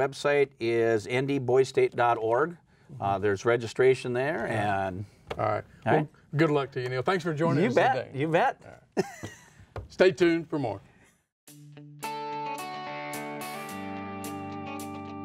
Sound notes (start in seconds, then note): 9.2 laughing; 11.4 upbeat guitar music